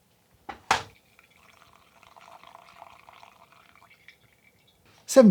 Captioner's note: coffee pours